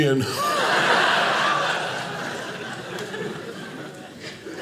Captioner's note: audience laughing